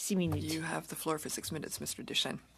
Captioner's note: speaking French